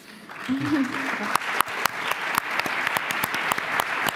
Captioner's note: applause